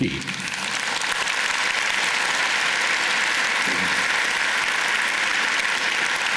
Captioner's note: applause